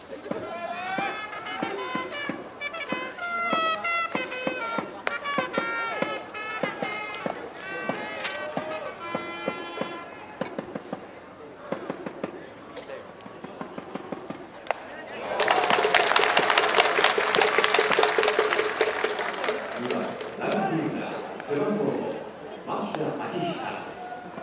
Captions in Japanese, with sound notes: 「飛び立とう 誇らしく この大地を蹴って 逞しく 美しく 力の限りに」 【拍手】 二番 ライトフィールダー 背番号5 牧田明久